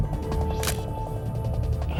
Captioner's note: camera shutter click